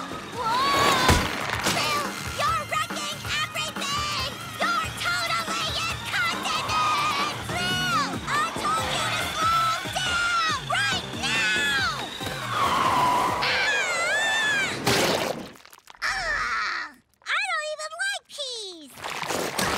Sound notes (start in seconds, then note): 12.3 screaming